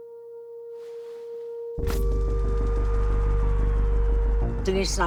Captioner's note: sirens wailing